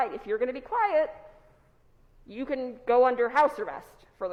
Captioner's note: none